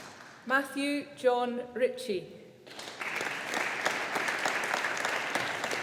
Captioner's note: audience applauding